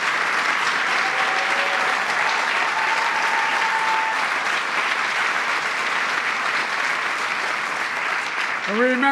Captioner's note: applause